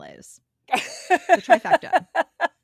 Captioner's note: laughing